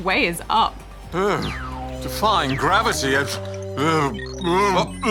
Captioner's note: queasy moaning